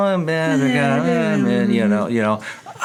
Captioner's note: both mumbling